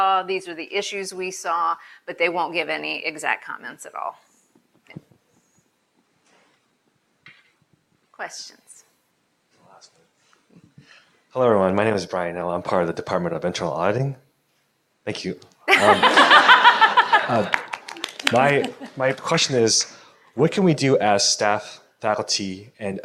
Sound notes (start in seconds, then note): 15.7 attendees laughing; 17.0 attendees applauding